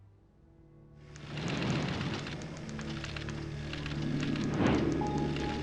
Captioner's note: typewriters clacking